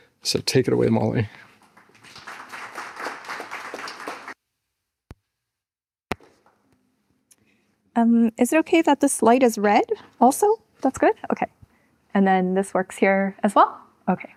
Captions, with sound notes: about blind analysis as coherence testing. So take it away, Molly. [APPLAUSE] Is it OK that this light is red also?